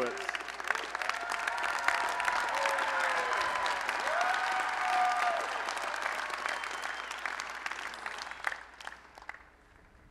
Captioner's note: applause and Cheering